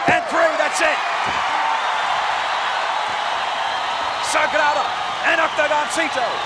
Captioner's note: applause